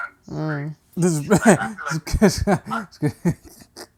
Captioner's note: laughter